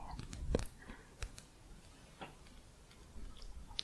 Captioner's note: quiet tapping